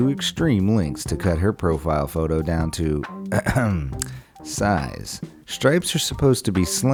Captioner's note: coughs